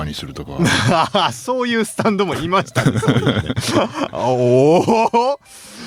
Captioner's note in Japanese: 笑い